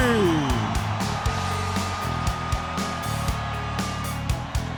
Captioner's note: audience cheers